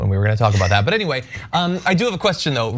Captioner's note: laugh